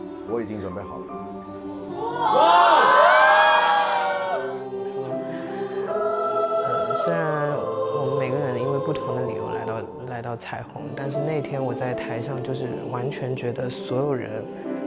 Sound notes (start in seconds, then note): 2.0 cheers